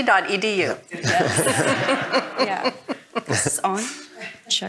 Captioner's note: all laughing